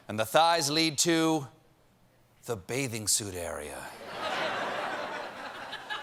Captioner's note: laughter